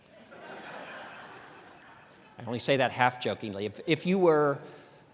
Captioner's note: laughter